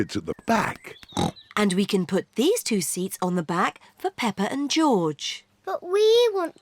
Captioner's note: snorts